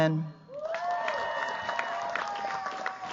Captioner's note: cheers, applause